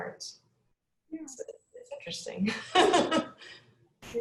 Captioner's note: laughs